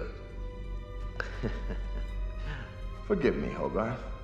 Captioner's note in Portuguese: risada ameaçadora